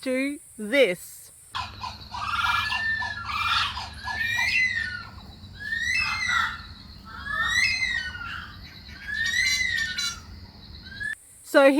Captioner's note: bird calls from Australia recorded by Jane Frost